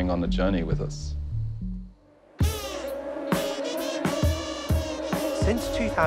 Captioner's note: swarm of mosquitos buzzing along to music